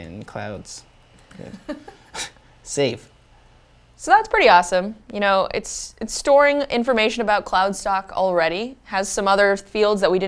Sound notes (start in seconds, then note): 1.3 laugh